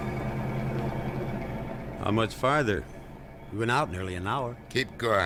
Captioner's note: engine rumbling